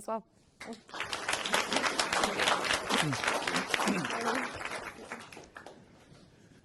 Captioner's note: applause